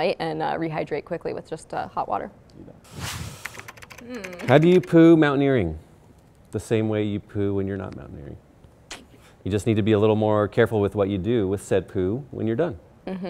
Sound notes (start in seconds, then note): 2.8 air whooshing; 3.4 keyboard clicking